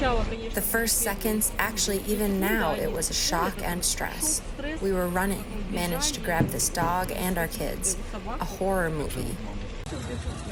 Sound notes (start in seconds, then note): 0.8 through translator